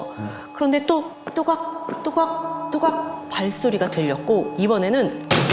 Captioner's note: mysterious footsteps again; bang! bang! bang!